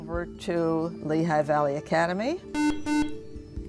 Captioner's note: buzzer